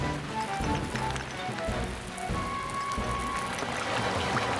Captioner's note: heroic Music; stones Clattering